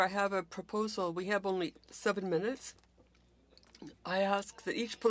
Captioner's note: speaking French